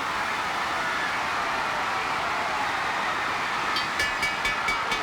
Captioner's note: audience cheering; bell ringing